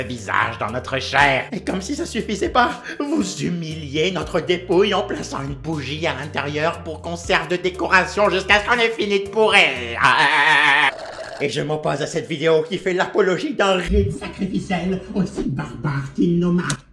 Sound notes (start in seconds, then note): 10.1 sips